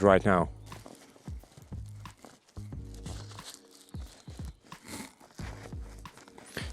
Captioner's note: fabrics rubbing against each other